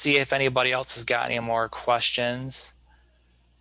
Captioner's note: none